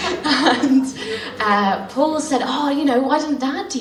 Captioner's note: laughs